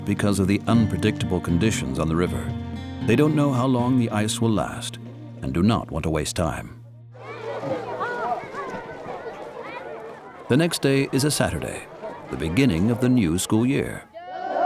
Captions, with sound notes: because of the unpredictable conditions on the river. They don't know how long the ice will last and do not want to waste time. (chatter) The next day is a Saturday, the beginning of the new school year.